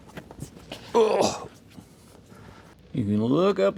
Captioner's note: grunting